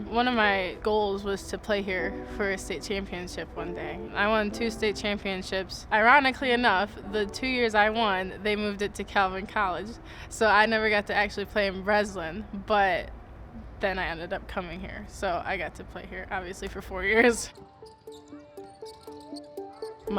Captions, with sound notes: One of my goals was to play here for a state championship one day. I won two state championships. Ironically enough, the two years I won, they moved it to Calvin College, so I never got to actually play in Breslin. But then I ended up coming here, so I got to play here, obviously, for four years. (laughs) (soft music)